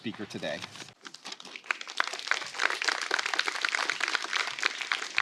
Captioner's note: applause